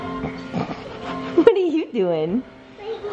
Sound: laughing

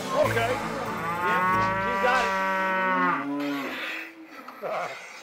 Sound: cows mooing

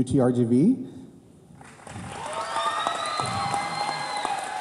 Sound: cheers

